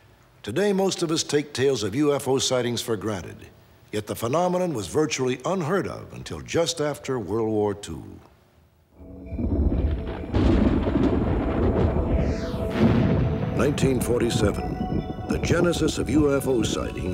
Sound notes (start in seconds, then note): 8.1 creepy music; 9.1 thunder